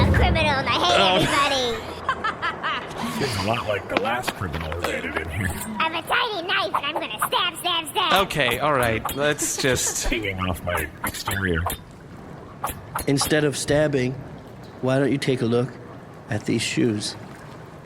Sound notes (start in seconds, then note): 1.9 Pleck and Dar laugh; 6.1 knife-swinging noises